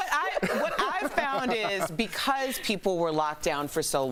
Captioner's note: laughter